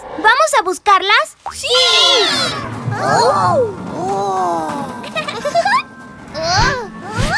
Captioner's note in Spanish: Risas